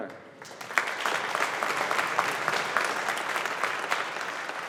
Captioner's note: audience applauding